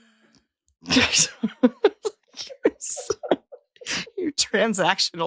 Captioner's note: laughing